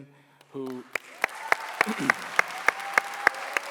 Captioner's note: clapping